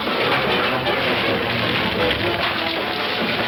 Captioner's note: fire crackling